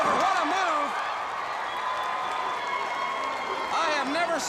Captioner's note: crowd cheering